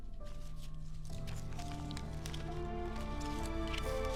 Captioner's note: film rustles